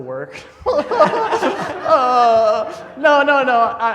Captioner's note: laughing